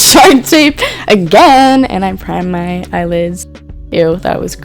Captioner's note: laughs; sing-song-y